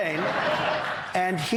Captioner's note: laughter